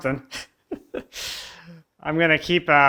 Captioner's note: laughs